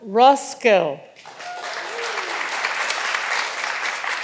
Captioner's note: all applauding